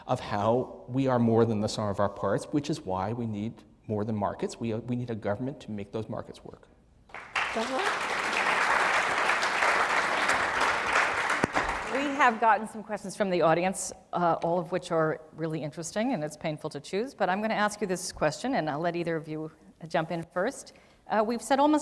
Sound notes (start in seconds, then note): 7.1 applause